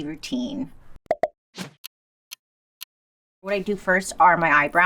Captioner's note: clock ticking